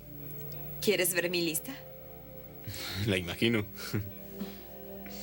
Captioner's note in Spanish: risos